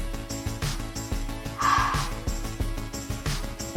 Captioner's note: sighs